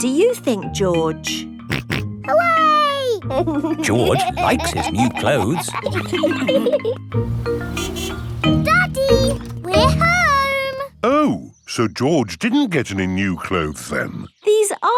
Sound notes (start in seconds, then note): 3.2 snorts and laughs; 7.2 horn honks